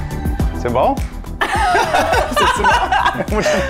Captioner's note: laughter